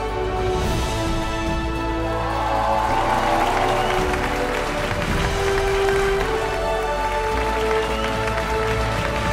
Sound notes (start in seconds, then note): 1.9 biggest applause!